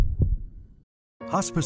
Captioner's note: heartbeat